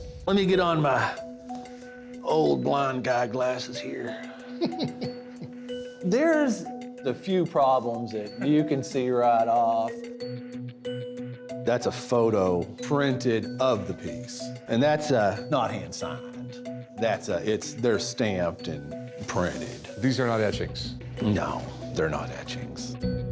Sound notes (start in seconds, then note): 4.1 laughs